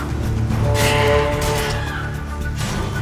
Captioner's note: snarl; hornwall bellows